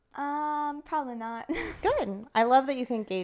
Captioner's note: chuckles